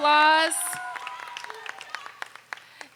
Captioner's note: applause